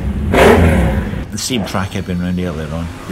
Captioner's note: motorcycle engines revving